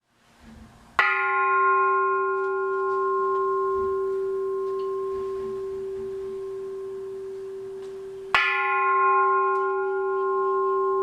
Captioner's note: ringing the bell